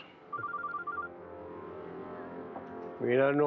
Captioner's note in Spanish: Suena celular